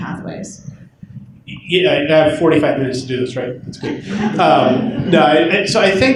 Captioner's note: laughter